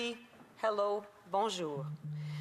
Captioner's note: speaking French